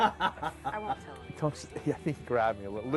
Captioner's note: laughing